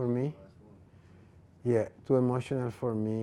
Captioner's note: man talking